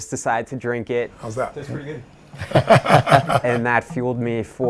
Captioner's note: laughs